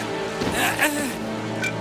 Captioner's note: zero effort grunting noise